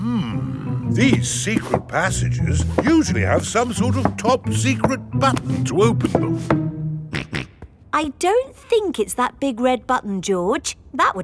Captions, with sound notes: Hmm. These secret passages usually have some sort of top secret button to open them. (SNORTS) I don't think it's that big red button, George.